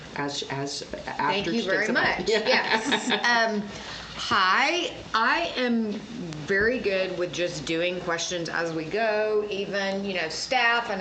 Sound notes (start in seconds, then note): 2.2 laughs